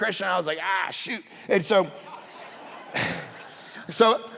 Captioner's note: congregation laughing